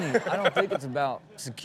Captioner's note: Steelo laughs; audience laughs